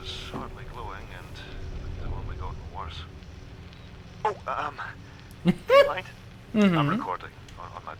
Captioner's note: laughing